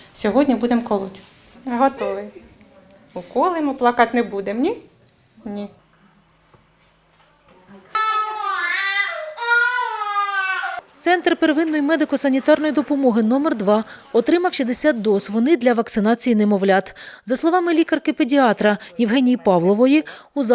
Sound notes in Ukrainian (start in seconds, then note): 5.3 чутно плач дитини